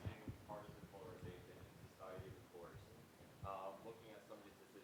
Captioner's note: student speaking faintly